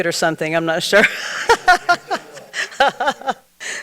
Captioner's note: laughs